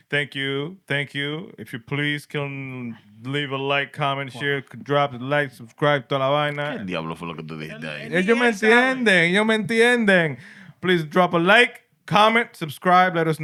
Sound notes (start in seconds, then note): 6.2 speaking Spanish